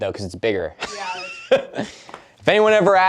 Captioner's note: laughs at his own joke